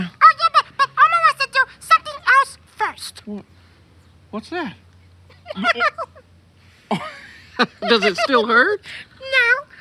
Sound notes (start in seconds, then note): 5.3 laugh